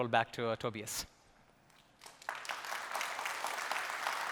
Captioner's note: applause